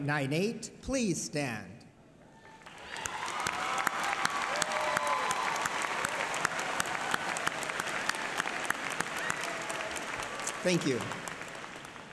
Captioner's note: applause